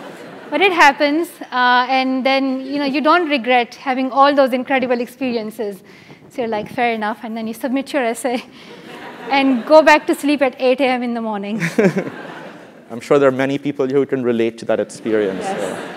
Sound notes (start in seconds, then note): 9.1 laugh; 15.3 laugh